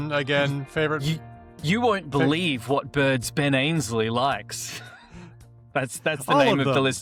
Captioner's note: laughs